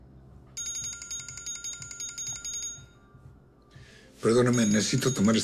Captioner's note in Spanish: Timbre de teléfono